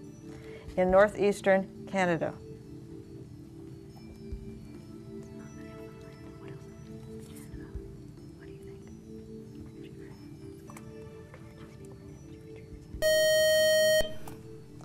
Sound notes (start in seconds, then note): 4.9 whispering; 13.0 buzz